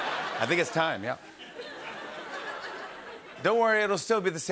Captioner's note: laughter